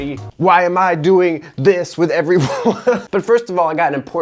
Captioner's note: laughing